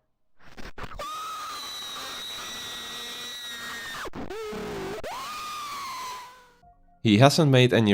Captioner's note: screaming